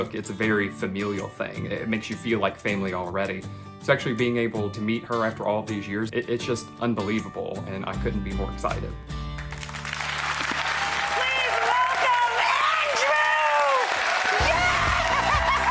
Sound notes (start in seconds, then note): 9.2 crowd clapping